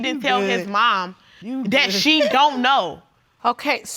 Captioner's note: continues scoffing